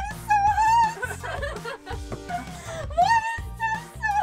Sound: laughs

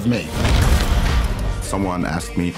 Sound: crashing

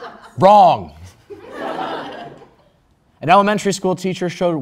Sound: crowd Laugh

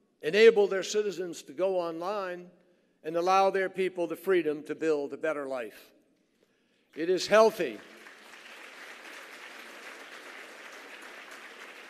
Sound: applause

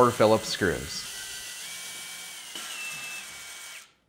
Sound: drilling

